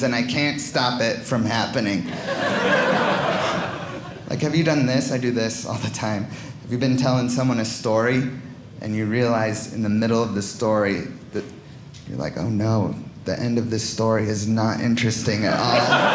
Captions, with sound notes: and I can't stop it from happening. (audience laughing) Have you done this? I do this all the time. Have you been telling someone a story, and you realize in the middle of the story, you're like, oh, no the end of this story is not interesting at all?